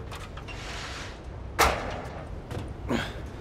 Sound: ladder thuds; Joel grunts

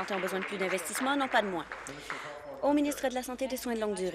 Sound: applause

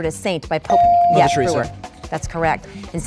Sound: dinging

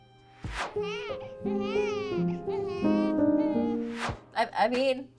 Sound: soft music; baby crying

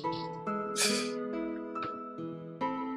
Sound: laughs softly

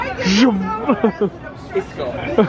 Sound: laughs

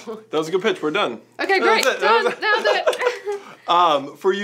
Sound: both laugh

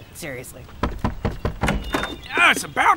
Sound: door opening; knocking on door

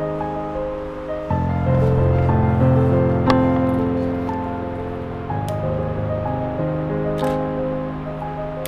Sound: piano music; camera shutter

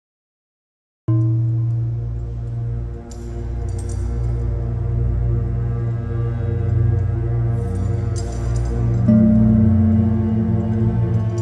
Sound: sound of cave temple

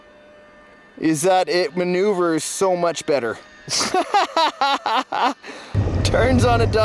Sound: laughs

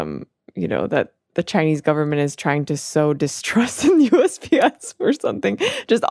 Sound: laughs

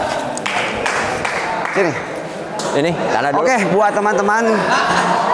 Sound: applause

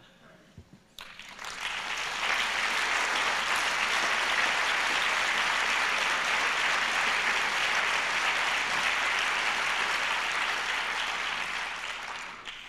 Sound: applause

